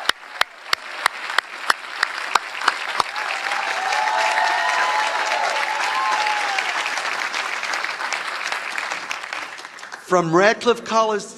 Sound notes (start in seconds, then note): 1.9 applause